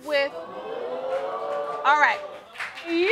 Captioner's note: audience exclaiming